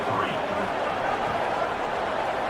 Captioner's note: crowd Noises